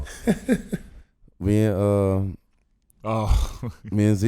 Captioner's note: laughing